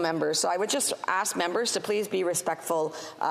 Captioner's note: speaking French